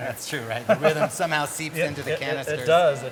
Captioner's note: laughter